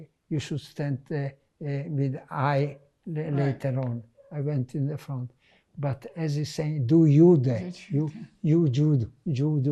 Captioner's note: german